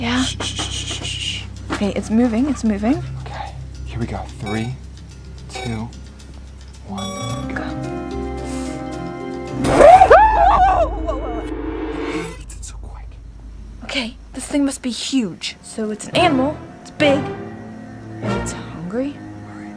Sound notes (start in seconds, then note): 9.6 shrieking; 9.7 both scream